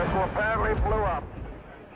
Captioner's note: rocket exploding